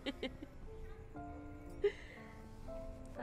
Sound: laughing

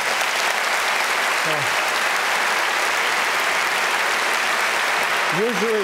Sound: applause

